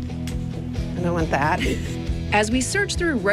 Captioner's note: laughs